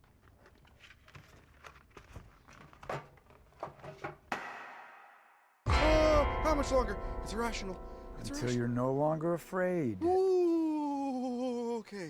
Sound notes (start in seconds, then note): 0.0 folder rustles; 2.5 box rattles